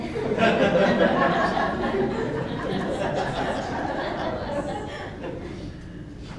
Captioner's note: laughter